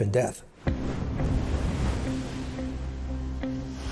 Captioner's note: waves breaking, ominous music